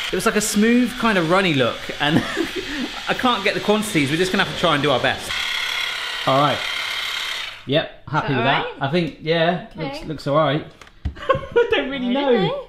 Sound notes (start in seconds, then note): 1.7 laughs